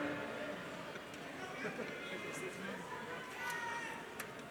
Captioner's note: crowd chattering